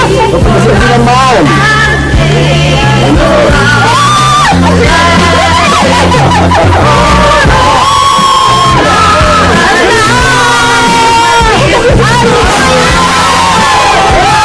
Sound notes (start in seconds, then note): 3.7 screams; 5.9 laughs; 9.8 all cheer